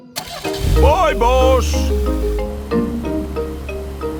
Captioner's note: car engine starts